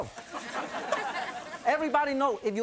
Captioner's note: audience laughs